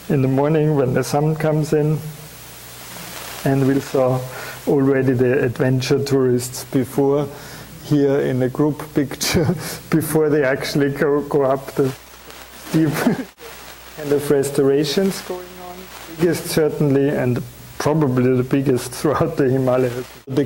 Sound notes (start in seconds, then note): 9.2 chuckling